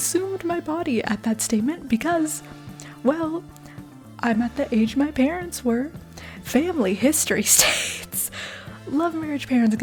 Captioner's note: chuckle